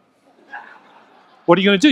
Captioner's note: audience laughs